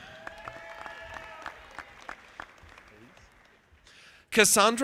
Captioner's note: audience applauding